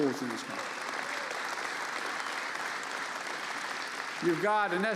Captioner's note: applause